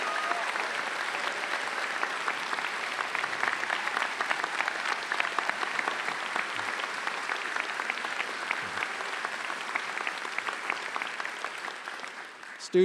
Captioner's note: cheers and Applause